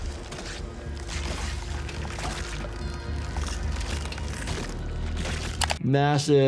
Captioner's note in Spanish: sonidos de crujidos